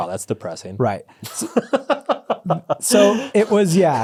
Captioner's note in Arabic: يضحك